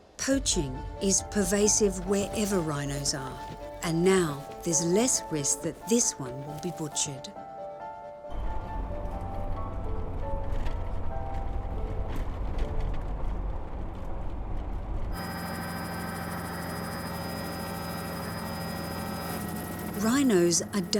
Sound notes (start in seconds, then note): 14.1 helicopter whirring